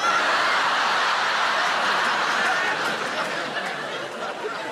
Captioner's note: audience laughs